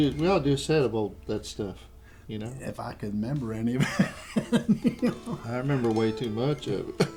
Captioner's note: laughter